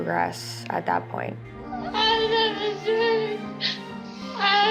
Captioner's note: sobbing